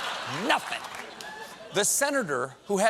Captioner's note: laughter